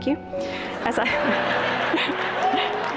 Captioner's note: laughter